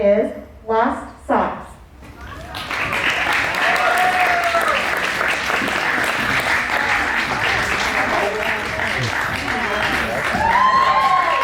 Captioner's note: cheers and applause